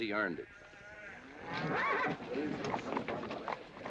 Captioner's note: horse neighing; men murmuring